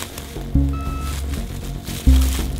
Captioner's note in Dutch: piep van dichtbij